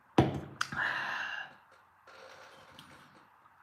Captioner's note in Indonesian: menghela napas; terkesiap